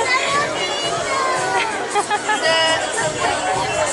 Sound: laughter

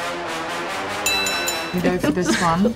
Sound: bell rings

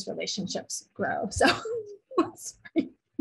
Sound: laughs

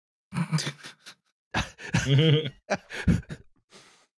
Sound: laughter

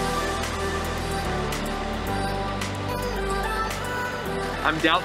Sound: motor rumbles

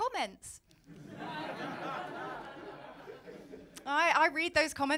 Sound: laughter

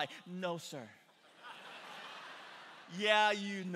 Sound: congregation laughing

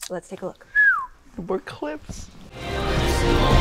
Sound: Dustin whistles; squishing noises; dramatic music

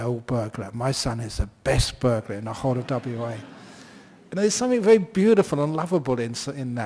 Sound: laughter

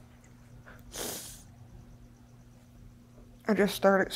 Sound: sniffling

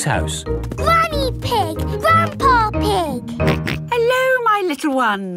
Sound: snorts

